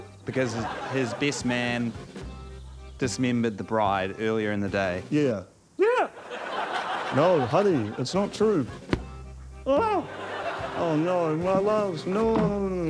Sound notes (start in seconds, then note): 6.3 falsetto; 8.8 thwack!; 8.9 moans